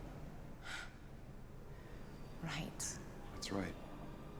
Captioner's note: sighs